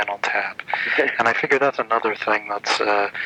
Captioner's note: laughing